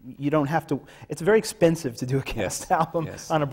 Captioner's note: laughs